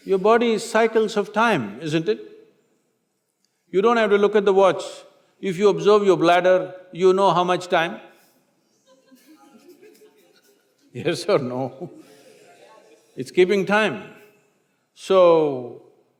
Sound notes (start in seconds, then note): 8.7 few laugh; 8.8 laughs